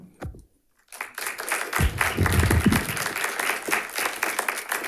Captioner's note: audience applauds